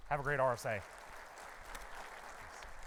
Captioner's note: audience applauding